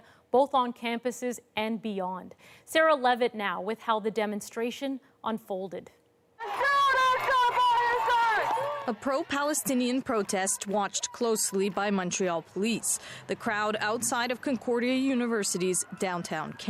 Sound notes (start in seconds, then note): 11.4 chanting